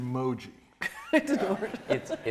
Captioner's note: all laughing